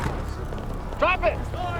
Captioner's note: siren blaring in the distance